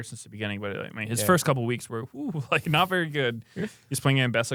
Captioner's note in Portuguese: risos